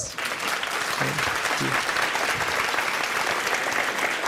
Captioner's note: applause